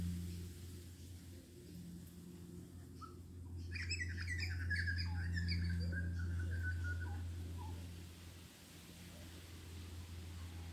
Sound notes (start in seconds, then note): 2.6 birdsong